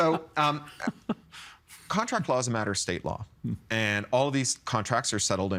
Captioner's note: laughs